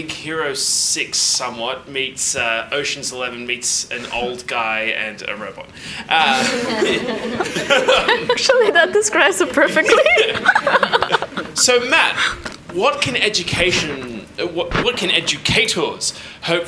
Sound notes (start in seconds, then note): 6.2 everyone laughs; 11.0 laughs